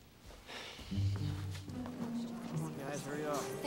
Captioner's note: Spencer sighs